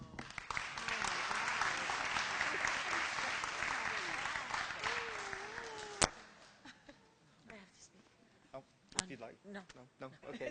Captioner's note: applause and background discussion